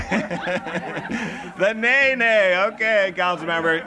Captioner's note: laughter